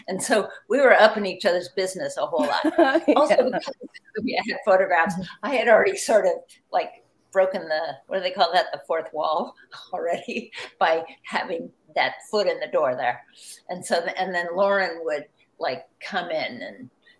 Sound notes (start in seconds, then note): 2.4 laughing